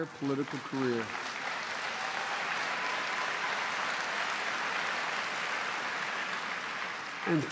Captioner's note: applause